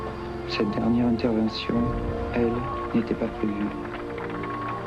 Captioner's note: claps